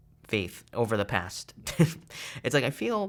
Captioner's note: chuckles